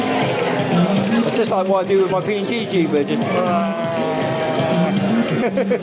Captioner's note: laughs